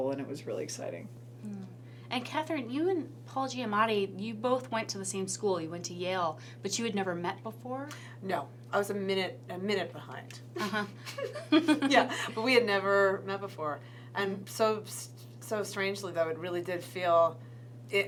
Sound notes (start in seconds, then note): 10.5 laughs